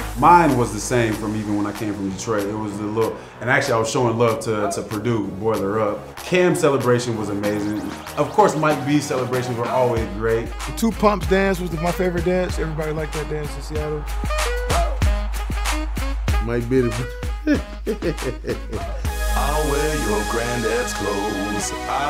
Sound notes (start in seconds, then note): 14.3 upbeat music; 17.4 laughs